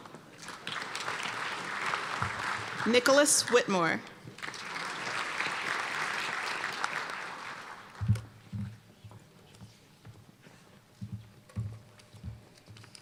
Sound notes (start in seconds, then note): 0.3 applause